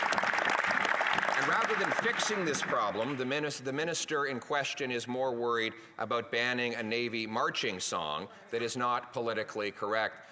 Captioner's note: applause